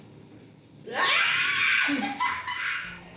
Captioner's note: surprised laugh